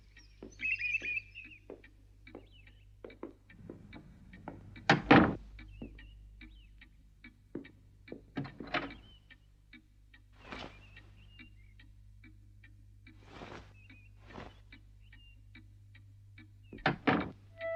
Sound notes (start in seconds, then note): 4.9 door clicks shut; 7.9 door softly opens; 16.4 door softly shuts